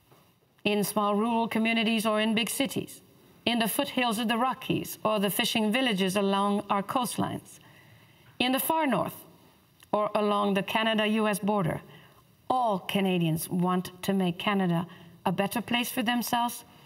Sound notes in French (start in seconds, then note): 1.1 voix de l'interprète